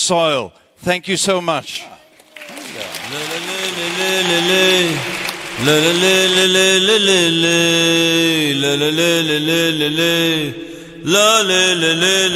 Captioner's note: applause